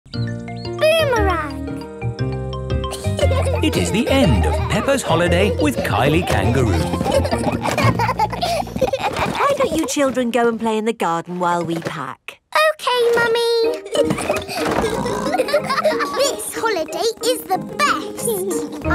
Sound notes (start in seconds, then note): 7.7 children laughing; 13.7 laughing and snorting